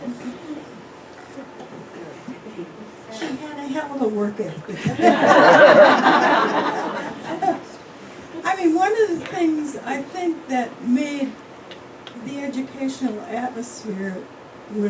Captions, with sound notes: She had a hell of a work ethic. (Laughter) I mean one of the things I think that made the educational atmosphere when